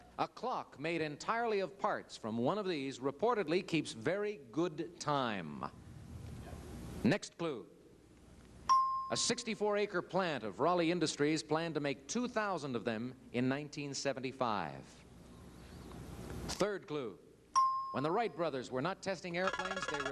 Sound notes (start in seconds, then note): 8.7 bell ding; 17.5 bell ding